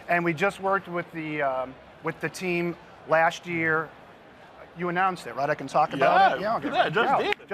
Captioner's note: laughter